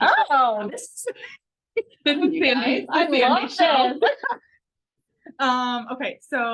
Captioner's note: overlapping chatter